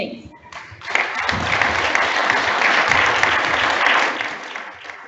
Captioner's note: audience applauds